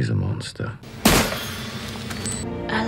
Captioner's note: smash